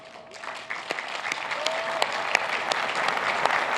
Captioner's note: cheers and applause